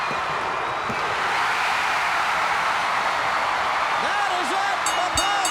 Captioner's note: audience cheering; audience roaring